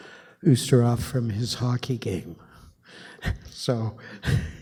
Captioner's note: chuckles